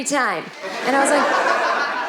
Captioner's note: audience laughing